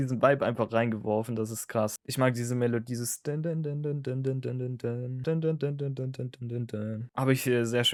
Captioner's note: imitates melody